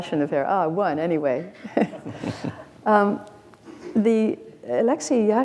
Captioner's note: chuckles